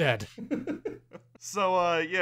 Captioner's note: laughter